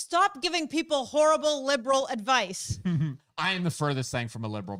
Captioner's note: laughs